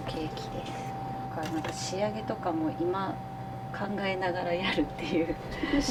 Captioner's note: laughter